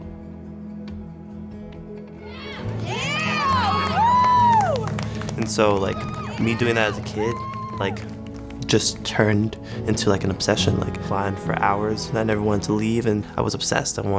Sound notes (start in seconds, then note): 0.6 soft music continues; 2.2 people cheering